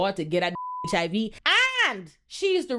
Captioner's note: beep